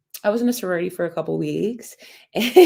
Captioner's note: laughter